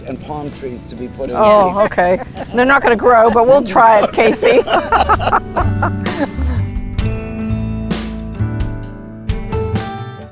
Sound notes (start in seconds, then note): 4.7 laughing